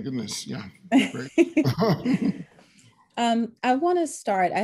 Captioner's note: laughs